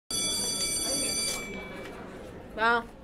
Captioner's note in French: sonnerie